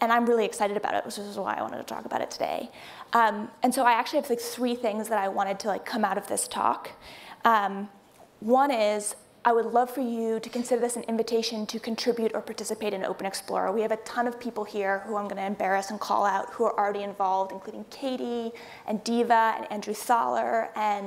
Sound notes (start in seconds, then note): none